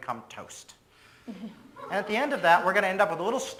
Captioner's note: audience laughs